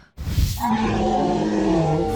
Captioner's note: roar